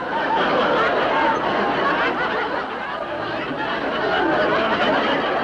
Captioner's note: audience laughing